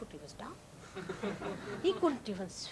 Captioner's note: laughter